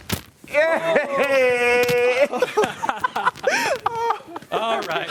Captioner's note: laughter